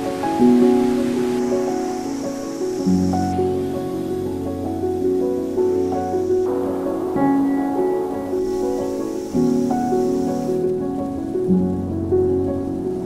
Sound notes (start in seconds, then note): 0.7 wind howls; 6.6 wind roars